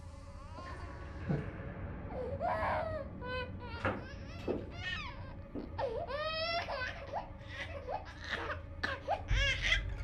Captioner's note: baby crying